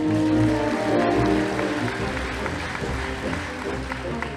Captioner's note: audience applauding